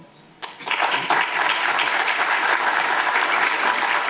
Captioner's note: audience applause